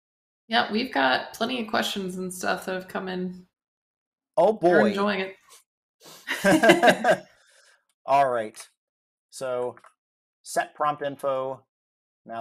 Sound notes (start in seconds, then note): 6.2 laughter